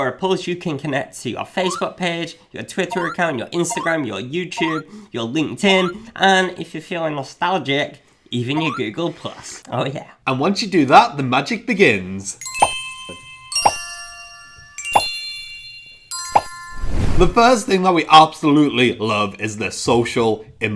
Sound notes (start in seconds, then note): 12.4 twinkling bells